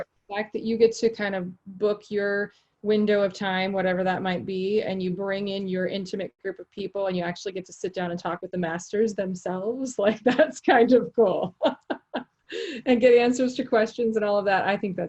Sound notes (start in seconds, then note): 11.4 laughing